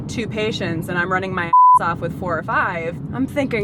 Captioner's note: beep